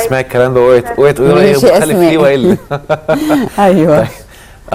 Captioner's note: laughs!; sarcasm!